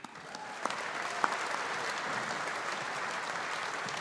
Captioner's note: audience applauding